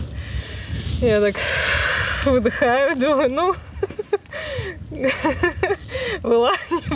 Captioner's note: laughs